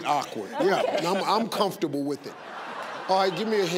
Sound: audience laugh

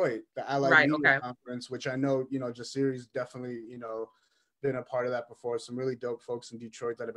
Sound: laughs

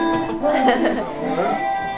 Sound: hehehe

